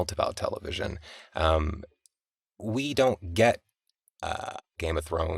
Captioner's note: none